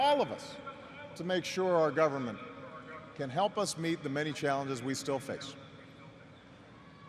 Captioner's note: cheers and applause